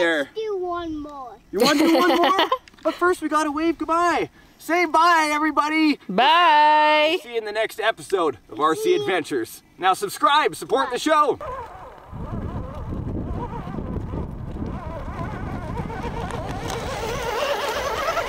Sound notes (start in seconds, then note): 1.6 laughs; 11.7 remote control truck engine humming